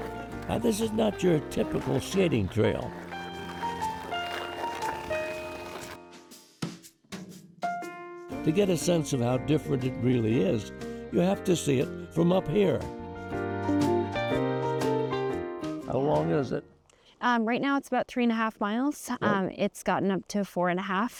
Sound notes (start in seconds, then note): 0.0 skate blades carving ice; 3.4 skate blades carving ice